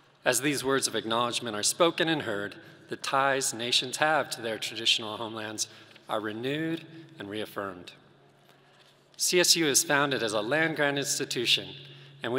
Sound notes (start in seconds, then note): none